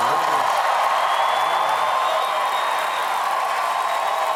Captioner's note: applause